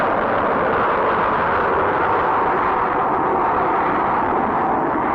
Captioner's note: rocket whirring